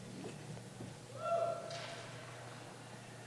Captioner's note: cheering